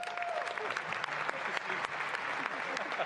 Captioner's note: applause